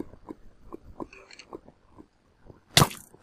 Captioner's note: rattling skeleton